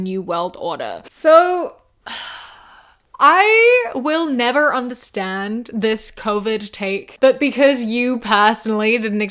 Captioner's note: sighs